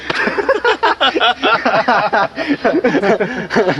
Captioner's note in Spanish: risas